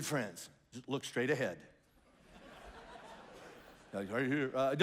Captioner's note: congregation laughs